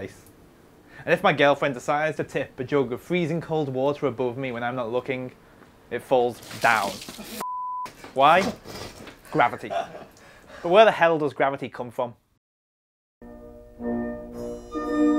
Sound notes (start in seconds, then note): 7.4 beep